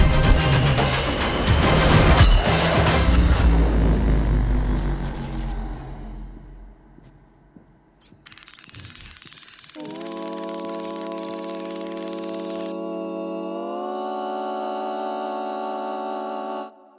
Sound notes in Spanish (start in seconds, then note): 6.9 sonido de pasos